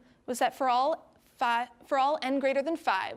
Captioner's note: none